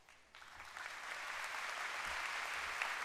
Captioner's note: applause